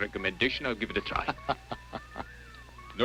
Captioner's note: laughs